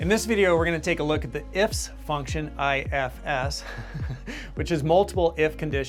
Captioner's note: laughs